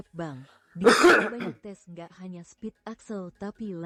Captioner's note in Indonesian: batuk